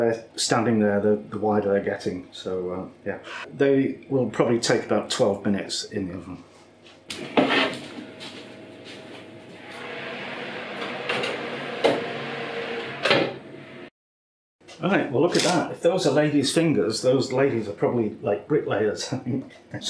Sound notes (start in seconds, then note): 10.4 oven roaring sound